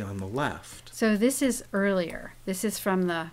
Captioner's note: voiceover